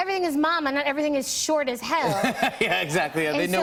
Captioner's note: laughs